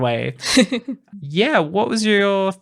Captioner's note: laughing